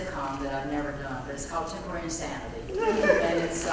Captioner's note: laugh